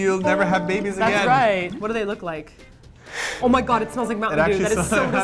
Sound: sniffs

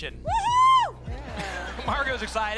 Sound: laughter

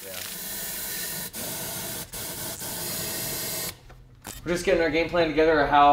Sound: hose suctioning

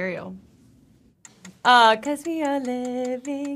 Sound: clock ticking

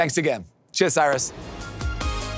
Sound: transition whooshes

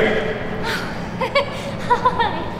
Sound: emma giggles

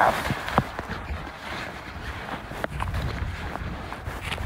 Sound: sound of rustling

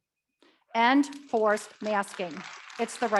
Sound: audience clapping

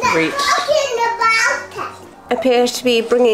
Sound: babbles

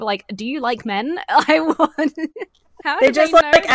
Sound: laughs

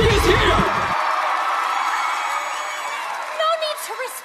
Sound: applause continues; applause, cheering

